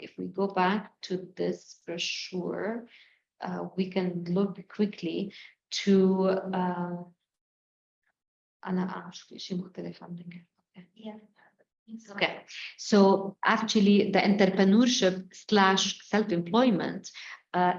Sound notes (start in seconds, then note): 8.6 speaking arabic